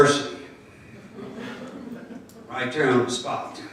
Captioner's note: crowd laughing